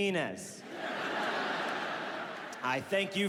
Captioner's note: audience laughs